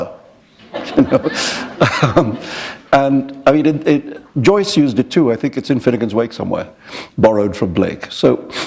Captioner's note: chuckle